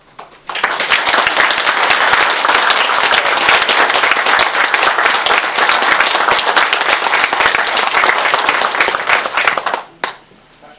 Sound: applause

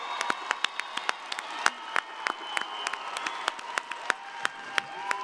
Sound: audience applauding

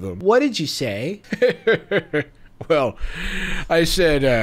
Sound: laughs

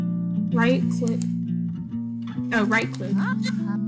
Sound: clicks

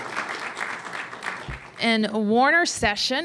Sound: applause

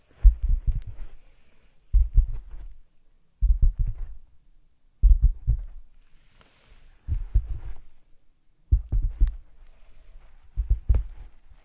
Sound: tapping with fingers

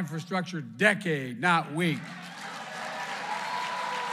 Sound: applause

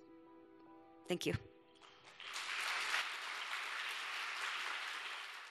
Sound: audience applauding

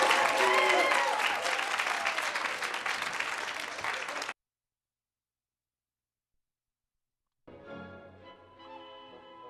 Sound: cheering; applause

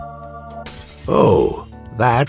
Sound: shatters

